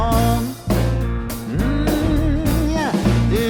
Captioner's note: hums